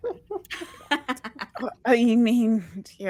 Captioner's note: all laughing